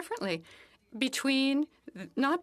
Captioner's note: speaking French